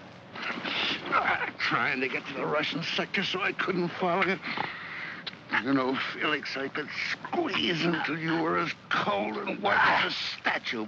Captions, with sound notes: (sounds of struggle) Trying to get to the Russian sector so I couldn't follow you? (Kowalski snarls) You know Felix, I could squeeze until you were as cold and white as that statue,